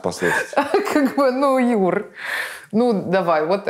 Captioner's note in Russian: смеясь